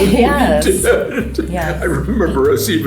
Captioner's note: laughs